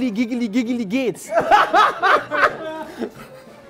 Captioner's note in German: Lautes Lachen